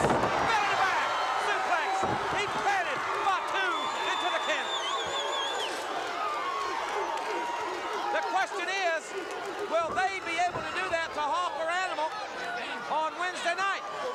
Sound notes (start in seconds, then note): 6.3 audience barks